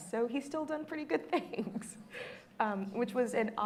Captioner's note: laughs